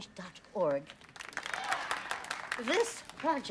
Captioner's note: applauding